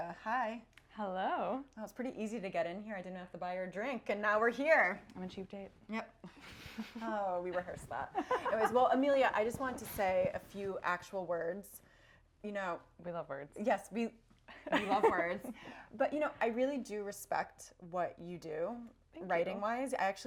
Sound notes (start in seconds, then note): 6.3 laughing